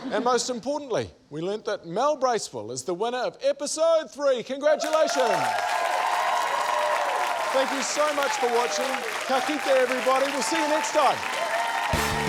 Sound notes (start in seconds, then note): 4.8 cheering, applause; 12.0 applause continues